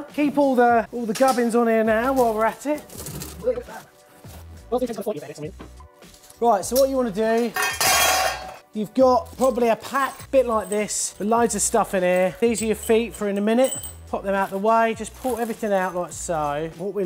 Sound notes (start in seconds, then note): 4.5 sped up talking